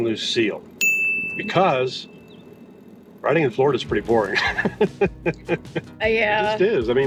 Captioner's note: laughs